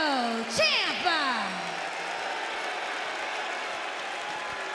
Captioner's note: crowd cheers and boos